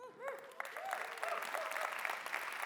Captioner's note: applause